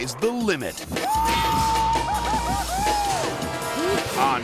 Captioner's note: shouting excitedly